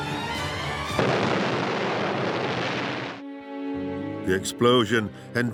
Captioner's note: explosion booms